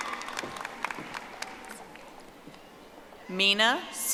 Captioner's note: audience applauding